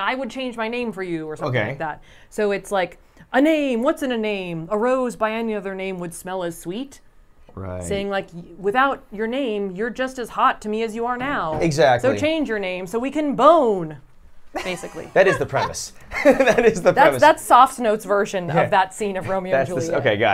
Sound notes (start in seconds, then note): 14.5 laughs